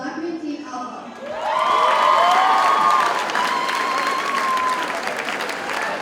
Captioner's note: audience cheers and applauds